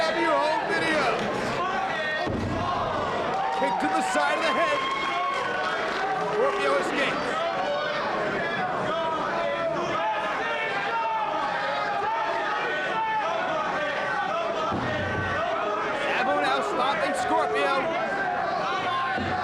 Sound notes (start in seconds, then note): 4.1 presenter speaking faintly off mic